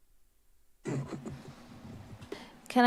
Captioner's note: rustles